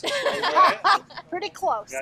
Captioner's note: group laughs